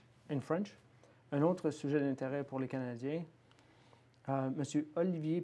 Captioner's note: speaking French